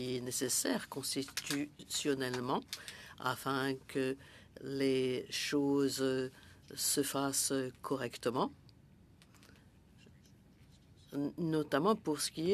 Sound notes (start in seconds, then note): 1.3 speaking French